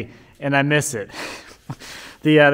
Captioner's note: chuckling